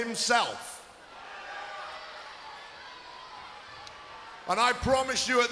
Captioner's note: crowd yelling